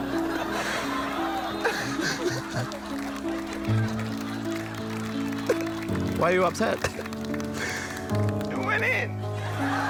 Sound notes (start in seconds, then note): 0.0 sombre music; 0.4 sobs